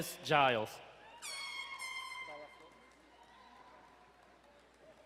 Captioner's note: horn blowing